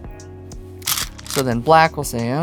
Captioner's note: stones rattling